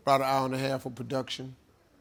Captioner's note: none